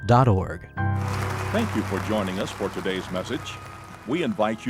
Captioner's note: applause